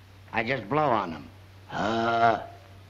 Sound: exhaling

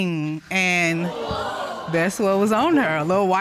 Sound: audience exclaiming

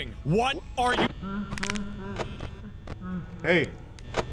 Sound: freddy laughing

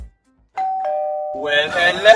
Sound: doorbell ringing

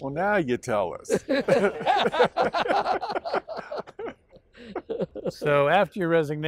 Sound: laughing

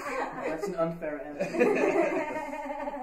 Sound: laughter continues

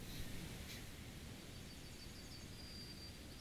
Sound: quiet birdsong

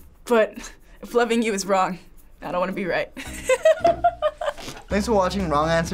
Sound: laughs

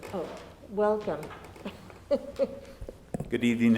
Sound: laughs

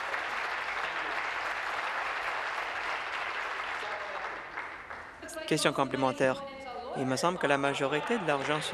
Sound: applause

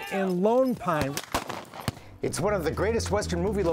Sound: gun firing

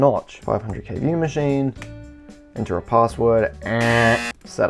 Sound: loud incorrect buzzer

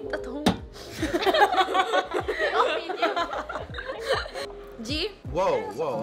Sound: all laughing

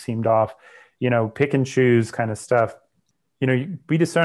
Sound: breath

